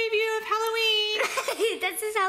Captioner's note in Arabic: يضحك